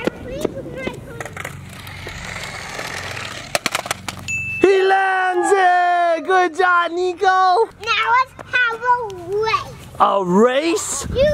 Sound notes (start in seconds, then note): 3.4 car clatters; 4.3 light ding